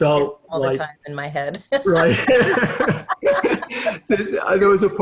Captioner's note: laughter